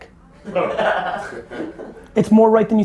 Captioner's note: group laughter